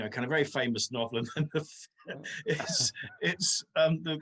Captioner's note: chuckles